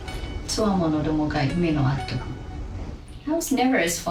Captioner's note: James speaking in Japanese; woman speaking in Japanese